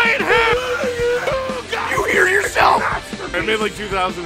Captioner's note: Harry potter screaming; screaming